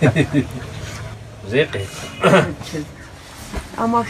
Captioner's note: laughing